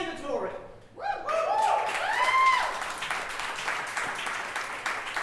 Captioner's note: audience cheering